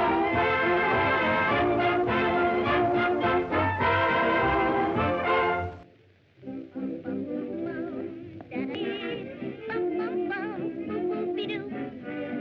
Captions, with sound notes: (Humming) Boop-boop-be-doop